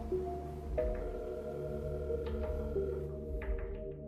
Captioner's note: phone dialing